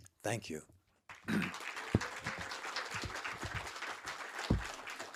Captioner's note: attendees applauding